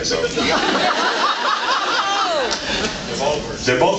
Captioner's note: laughs